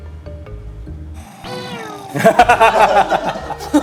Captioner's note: zzz